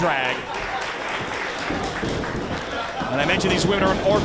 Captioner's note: applause